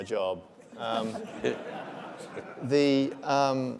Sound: laughs

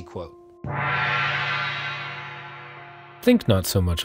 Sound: gong rings

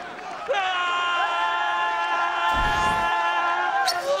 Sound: screaming

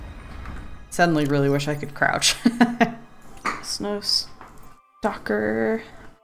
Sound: laughs

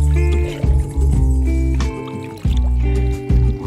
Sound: gurgling

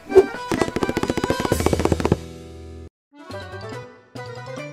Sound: feet pattering; assistant whooshing; fast happy music

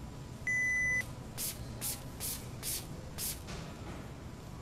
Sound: beep; water spritzing

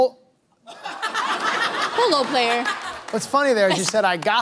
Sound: laughter

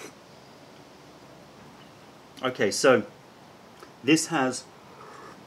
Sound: sips tea

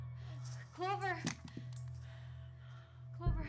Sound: gun clacking on floor

